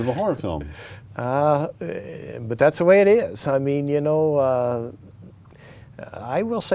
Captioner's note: laughs